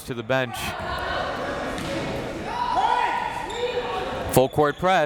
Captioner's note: crowd members shouting